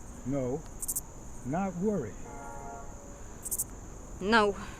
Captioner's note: distant train horn blaring